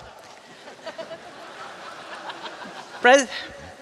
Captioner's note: laughter